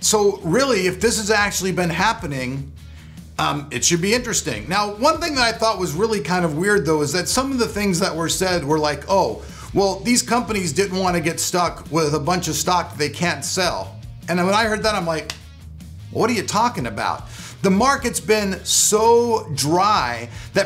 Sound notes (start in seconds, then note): 15.1 slaps forehead